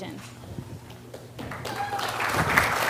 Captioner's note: cheer and Applause